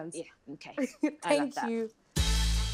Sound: giggles

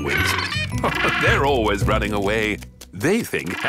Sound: laughing

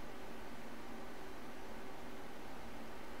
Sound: none

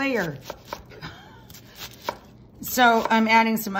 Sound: knife tapping

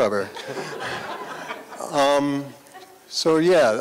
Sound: laughter

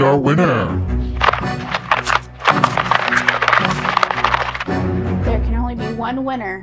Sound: mysterious music; wheels scraping

